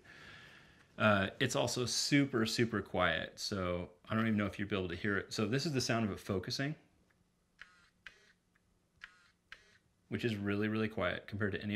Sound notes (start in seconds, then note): 6.8 clicking